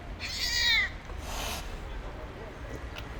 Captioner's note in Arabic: مواء القطة; هسهسة القطة